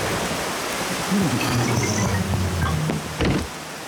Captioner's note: grunts